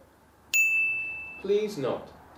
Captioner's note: bell rings